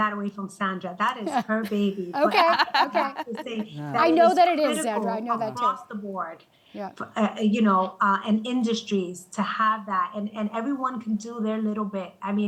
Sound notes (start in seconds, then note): 2.1 panelists chuckling